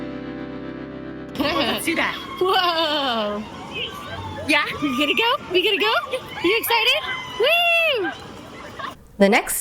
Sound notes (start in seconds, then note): 1.3 hoots